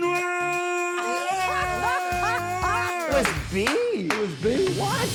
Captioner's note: laughing